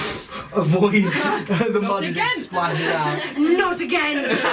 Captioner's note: fwooshing sound